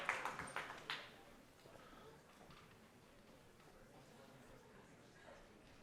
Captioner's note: cheering